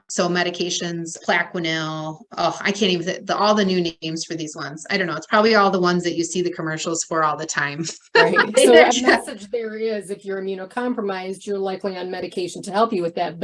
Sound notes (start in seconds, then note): 7.8 laughs